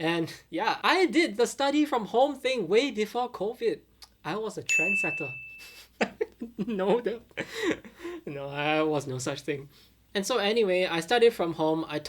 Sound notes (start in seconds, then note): 5.8 laughing